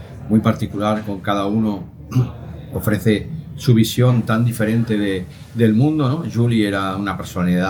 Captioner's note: clears throat